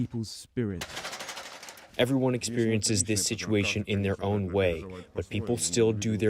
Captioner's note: through translator